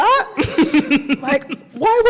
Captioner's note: laughs